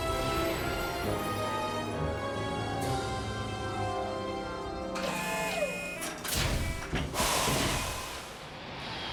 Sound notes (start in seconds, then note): 4.9 mechanical whirring